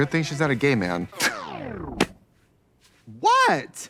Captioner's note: power down